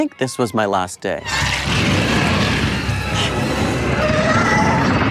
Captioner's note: air whooshing